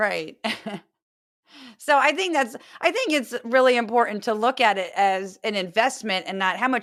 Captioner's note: laugh